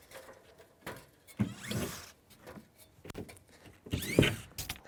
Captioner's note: drill whirring